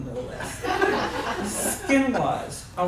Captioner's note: laughs